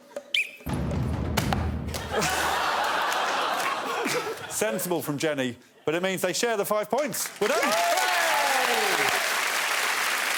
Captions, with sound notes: On my whistle please throw. [blows whistle] Sensible from Jenny but it means they share the five points, we're done.